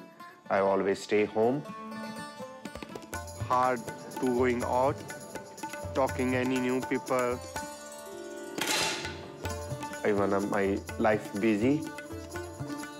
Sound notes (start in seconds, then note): 8.6 rifle fires